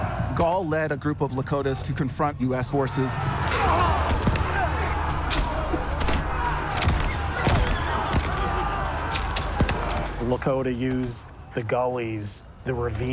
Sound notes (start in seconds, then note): 2.9 shouting; 5.1 arrow swishes, guns firing